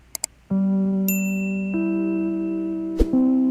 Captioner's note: click; ding